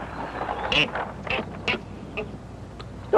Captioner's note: baboon chattering